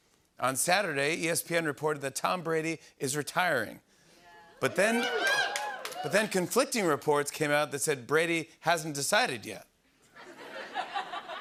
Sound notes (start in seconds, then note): 4.6 cheers; 10.1 laughter